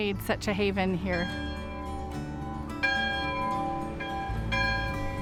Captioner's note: bell clanging